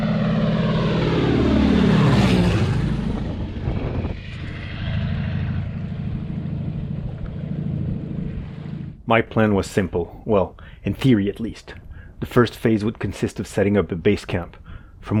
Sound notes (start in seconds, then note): 1.3 plane zooming